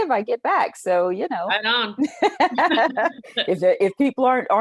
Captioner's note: both laughing